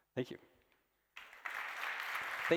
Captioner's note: applause